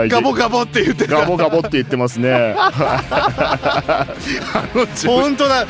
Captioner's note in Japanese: 笑い